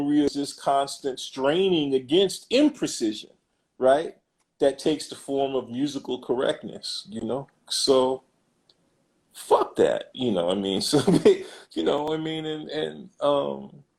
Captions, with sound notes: Maria's is constant straining against imprecision. Right? That takes the form of musical correctness you know, so fuck that, you know, I mean (laughs) You know, I mean and, and umm